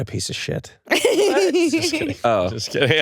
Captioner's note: laughs